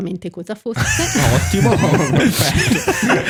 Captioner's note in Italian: laughter